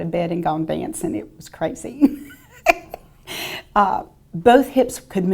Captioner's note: chuckles